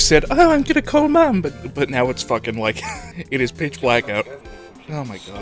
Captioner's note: wheeze